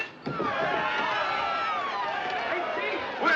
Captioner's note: crowd Screaming, Chattering